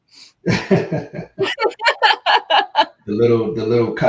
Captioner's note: laughing